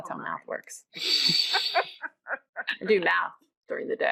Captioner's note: laughing